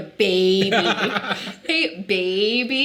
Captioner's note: Jarvis laughing